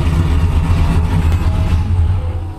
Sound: engine idling

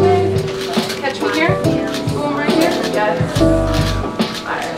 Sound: photographers talking

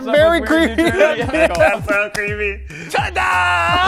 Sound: laughing

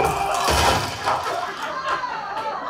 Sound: off-Stage Creaking Wood Noises; off-Stage Falling Thuds and Screaming; crackling Thud!; audience Reacts in Horror/Amusement

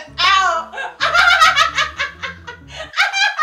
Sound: laughing

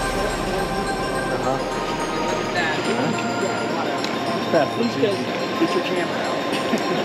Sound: miscellaneous chatter

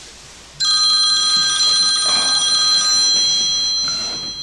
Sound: phone ringing

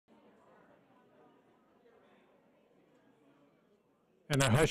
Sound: audience murmuring

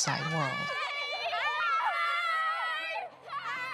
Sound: children laughing and cheering

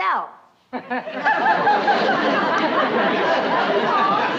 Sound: chuckles

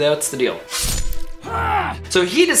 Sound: sword slicing

